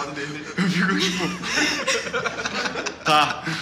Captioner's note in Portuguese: Risos